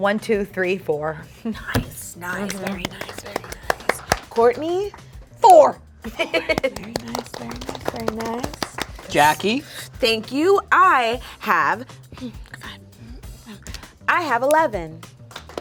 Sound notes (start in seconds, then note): 2.2 group softly clapping; 2.2 softly clapping; 6.0 chuckling; 6.0 group softly clapping